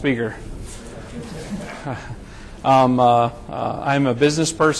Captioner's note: chuckling